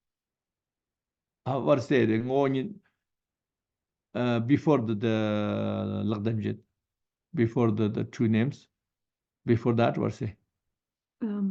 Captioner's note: tibetan